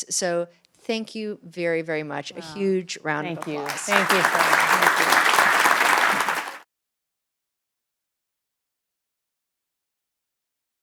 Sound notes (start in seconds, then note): 3.3 applause and cheering